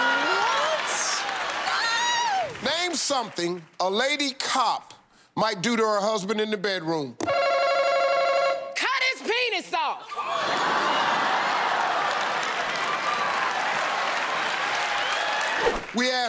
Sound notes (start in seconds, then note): 10.0 laughter; 10.4 applause